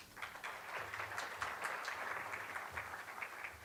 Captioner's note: applauding